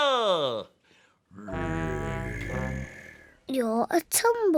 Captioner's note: tiger noise